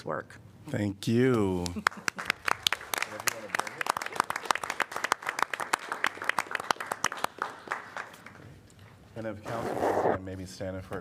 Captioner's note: applause